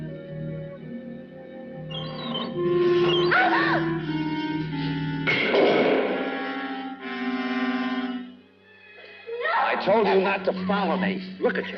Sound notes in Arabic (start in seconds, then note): 1.9 صرير فأر; 5.3 فأس يضرب الأرض; 9.2 صراخ